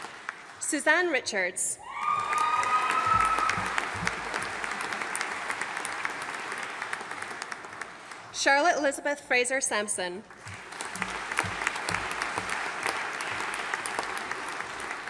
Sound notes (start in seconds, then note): 1.9 audience applauding; 10.3 audience applauding